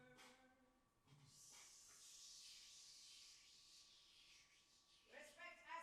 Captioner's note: man makes hissing sound